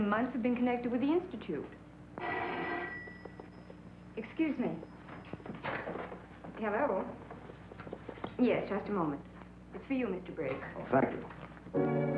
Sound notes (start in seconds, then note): 2.2 phone ringing